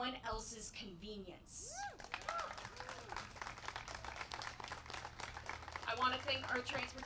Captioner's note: applause